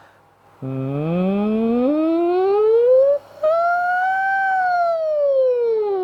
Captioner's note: hums up and down the full range